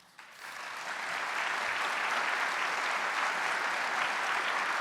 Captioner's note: audience applauding